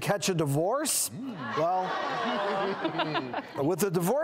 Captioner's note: audience gasping